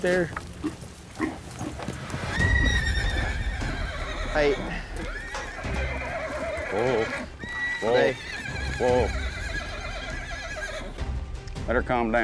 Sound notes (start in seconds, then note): 3.0 horse neighs wildly; 7.3 horse continues neighing; 10.1 horse neighs wildly